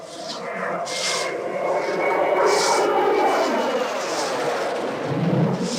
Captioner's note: zing